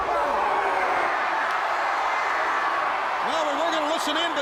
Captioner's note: audience cheers